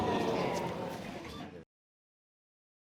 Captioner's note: audience exclaims